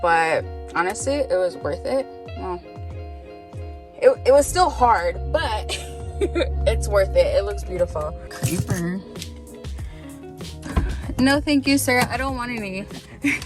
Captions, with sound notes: but honestly it was worth it. Well, it was still hard, but (laughing) it's worth it. It looks beautiful. (car door knocks) - Repair? - No, thank you, sir, I don't want any.